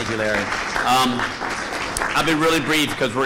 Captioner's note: applause